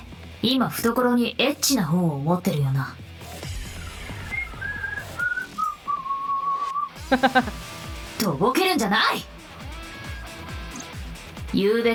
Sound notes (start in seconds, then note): 7.0 chuckles